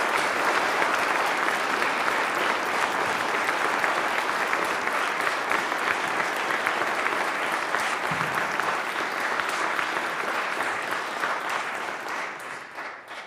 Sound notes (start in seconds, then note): 0.0 applause